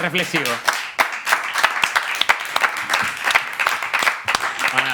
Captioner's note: applause